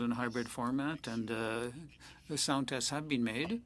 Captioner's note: speaking French